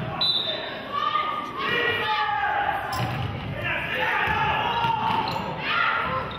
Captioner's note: whistle blows